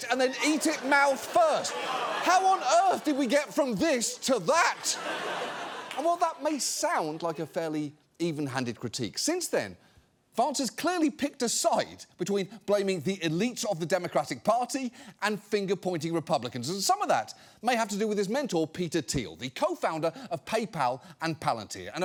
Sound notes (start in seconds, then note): 0.0 studio audience groaning; 4.9 studio audience laughing